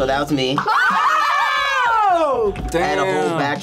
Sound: group screams

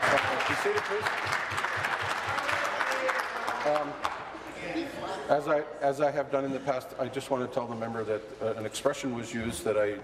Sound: applause

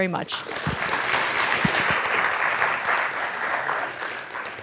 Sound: students applaud

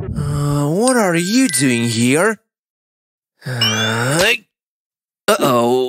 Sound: grunting

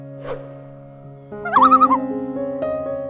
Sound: loon call

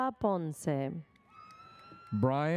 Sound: audience members cheer

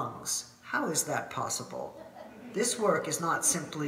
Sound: audience laughing

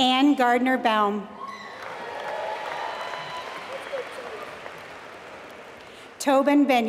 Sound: applause

